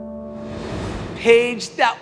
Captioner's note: air swooshing